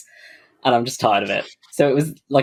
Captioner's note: laughs